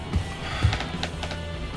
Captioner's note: sighs